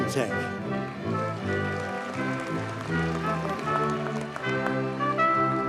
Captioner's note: audience cheers and applauds